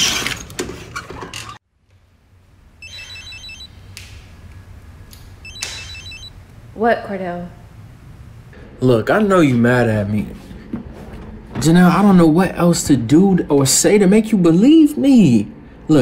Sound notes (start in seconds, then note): 3.2 cellphone rings